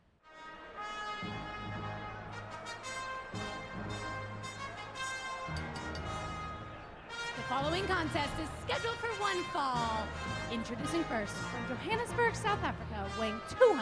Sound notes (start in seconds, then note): 6.1 bell ringing